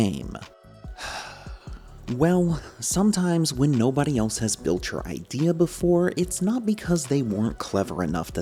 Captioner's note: sigh